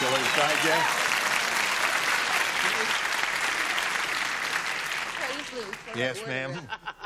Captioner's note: applause